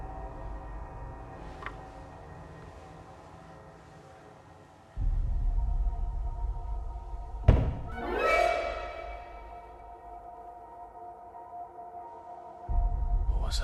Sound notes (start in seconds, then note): 7.3 dramatic music; 7.4 thudding